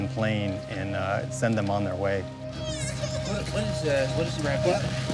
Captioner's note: cries